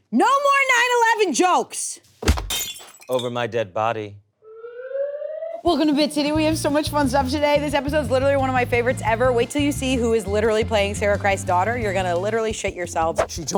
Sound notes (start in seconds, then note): 2.2 glass shattering; 4.4 alarm wailing